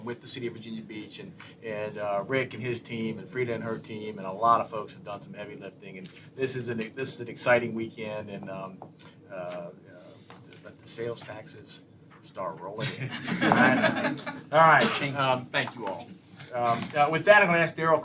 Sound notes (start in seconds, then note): 12.8 laughter